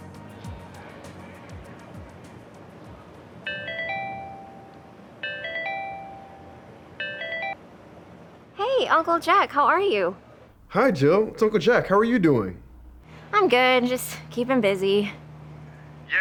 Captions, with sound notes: (phone ringing) - Hey, Uncle Jack, how are you? - Hi, Jill. It's Uncle Jack, how are you doing? - I'm good. Just keeping busy.